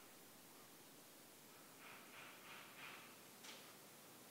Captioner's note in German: Ferne Handwerksgeräusche im Hintergrund